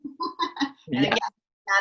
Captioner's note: laughing